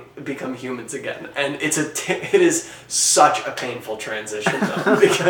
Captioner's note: laughing